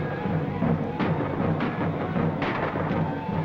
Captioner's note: gunfire